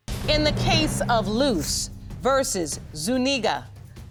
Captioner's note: none